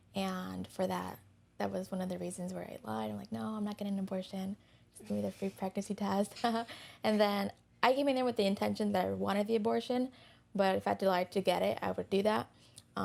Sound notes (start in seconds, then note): 6.3 giggles